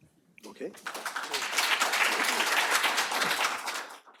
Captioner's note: applause